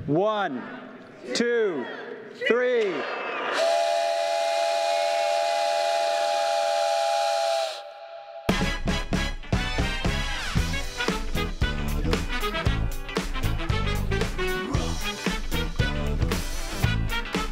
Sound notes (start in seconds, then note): 3.6 train whistle toots; 8.7 jazzy music